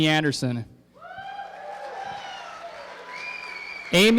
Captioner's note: applause